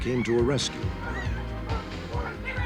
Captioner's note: screaming